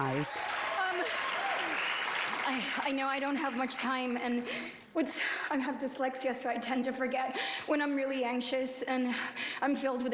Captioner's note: cheers and applause